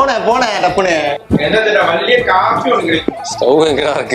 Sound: in Malayalam

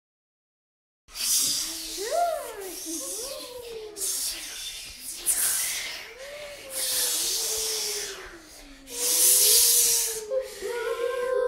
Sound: sound of ghost kids

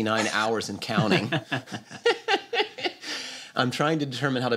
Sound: laughter

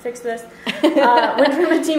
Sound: laughter

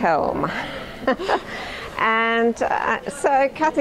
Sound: laughing

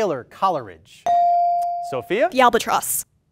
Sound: ding

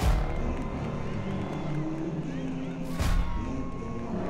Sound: cheering; engines revving

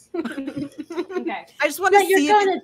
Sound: laughter

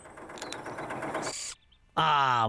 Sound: engine Running

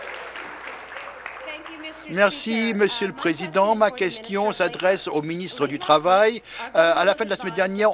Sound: applause

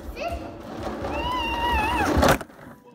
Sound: crash

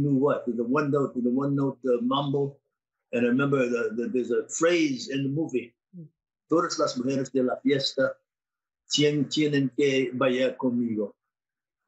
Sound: speaking Spanish

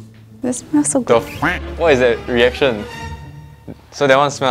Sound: wah; wah

